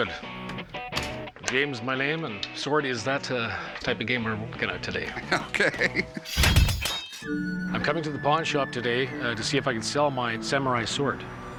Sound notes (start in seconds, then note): 5.0 laughs; 6.3 blades clanging